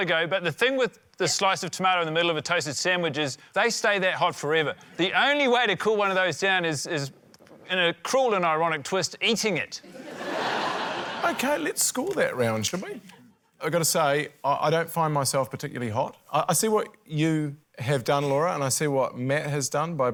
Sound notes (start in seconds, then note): 9.8 laughter